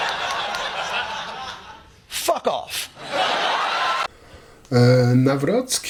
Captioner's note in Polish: Aplauz